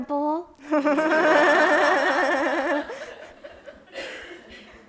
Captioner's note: audience laughs